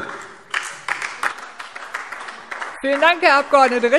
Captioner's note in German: Beifall AfD